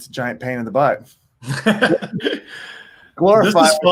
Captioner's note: laughing